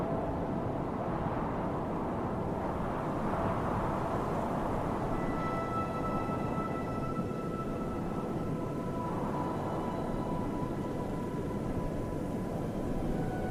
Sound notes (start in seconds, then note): 5.1 pensive music; 6.0 wind whooshing